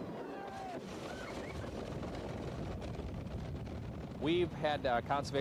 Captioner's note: riders cheering